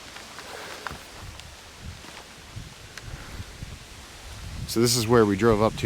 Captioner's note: wind whooshing